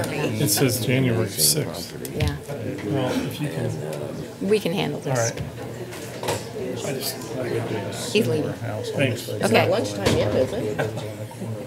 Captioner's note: low chatter